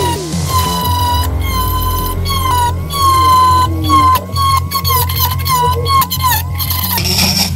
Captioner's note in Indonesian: suara mesin